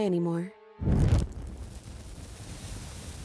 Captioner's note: torch blazes out, embers sizzle and die